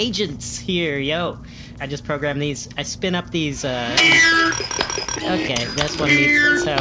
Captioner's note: gears falling out, pinging